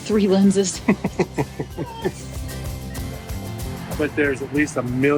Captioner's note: chuckling